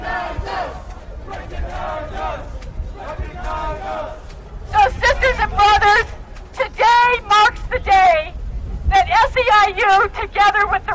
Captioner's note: chanting; chanting